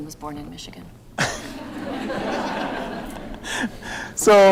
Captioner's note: laughter